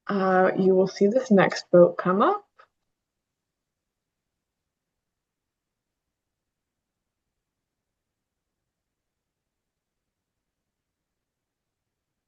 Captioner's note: pause